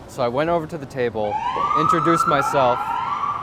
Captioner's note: sirens wailing